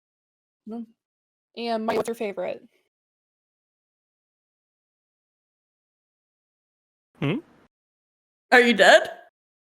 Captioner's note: voice cuts out